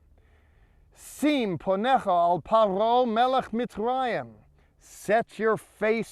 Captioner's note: speaking in Hebrew